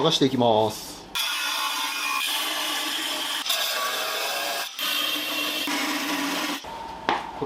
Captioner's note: working sound